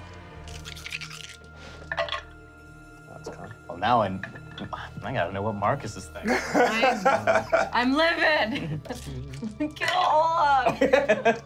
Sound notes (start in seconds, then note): 0.7 rolling dice; 6.3 laughing; 10.6 laughing